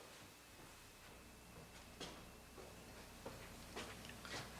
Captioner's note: walking sounds